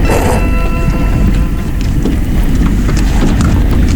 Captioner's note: car engine humming; tires scrunching